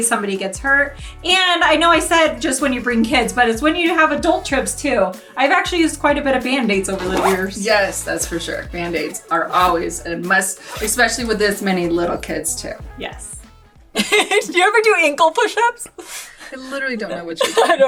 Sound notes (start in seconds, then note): 14.0 laughs